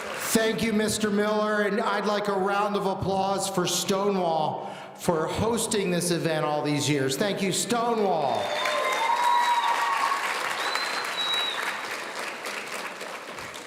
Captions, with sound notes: - Thank you, Mr. Miller, and I'd like a round of applause for Stonewall for hosting this event all these years. Thank you, Stonewall. (audience cheering)